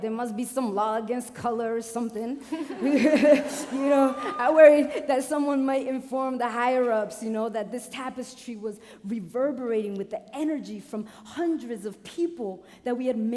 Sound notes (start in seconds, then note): 2.4 laughing